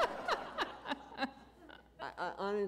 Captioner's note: laughter